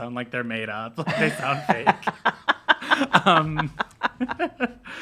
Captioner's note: laughs